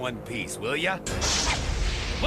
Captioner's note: crashing